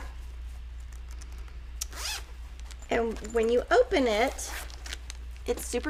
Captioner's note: zip unzipping